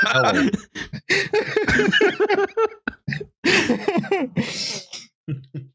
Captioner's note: laughter